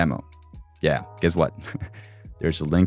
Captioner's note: chuckles